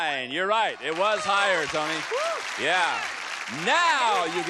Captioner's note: applause; exclaims